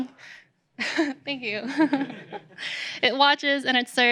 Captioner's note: laughs